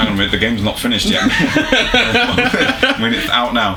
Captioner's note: laughs nervously